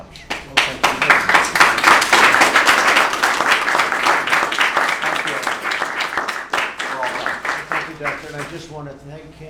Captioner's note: applause